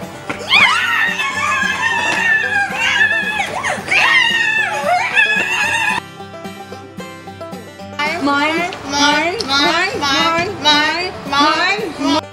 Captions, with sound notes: (Screeching) (Lots of screeching) Mine. Mine. Mine. Mine. Mine.